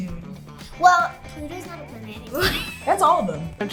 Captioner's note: laughs